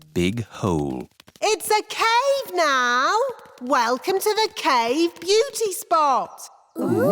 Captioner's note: echoing